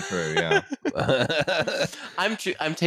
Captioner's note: laughter